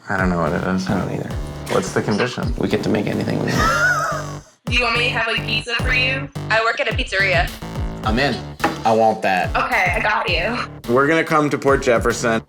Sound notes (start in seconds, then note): 3.3 laughing